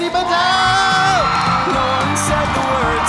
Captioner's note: audience cheering; audience applauding